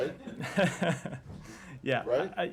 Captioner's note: laughter